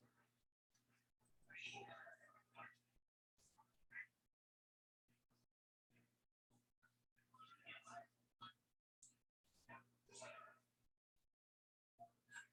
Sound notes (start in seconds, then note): none